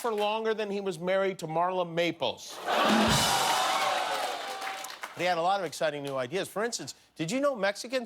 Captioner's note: laughter